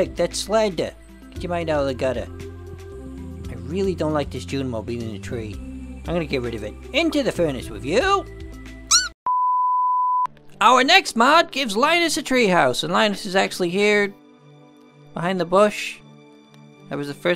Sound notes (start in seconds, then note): 8.9 Junimo cries